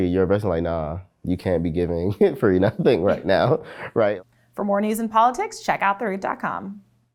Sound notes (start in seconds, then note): 2.0 both laughs